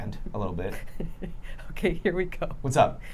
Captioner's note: laughing